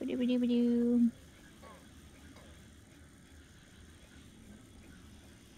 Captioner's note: humming